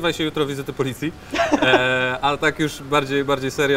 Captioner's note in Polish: śmiech